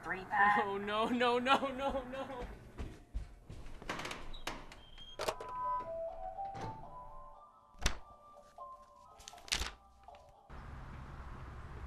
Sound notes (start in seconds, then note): 3.7 door opening; 5.2 phone receiver put back, sound of PA shutting off, music returns; 8.4 magazine pages flipping